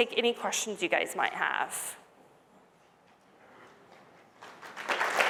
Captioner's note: applause